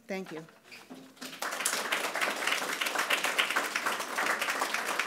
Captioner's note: audience applauds